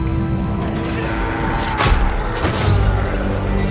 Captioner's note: man yells